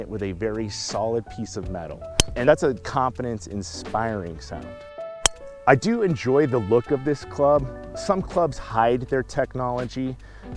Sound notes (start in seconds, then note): 5.2 club hitting golf ball